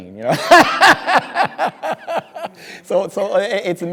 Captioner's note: speaker laughing